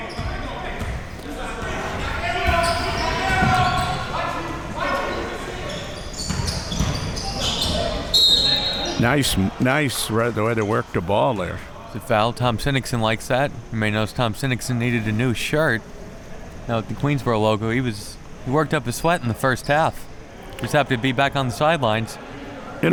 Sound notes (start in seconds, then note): 1.2 audience chattering and yelling; 8.0 whistle blowing